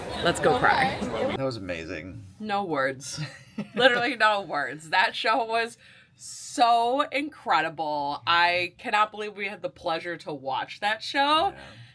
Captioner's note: laughs